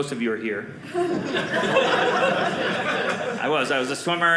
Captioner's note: audience laughing